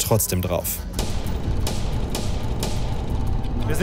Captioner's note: dark sounds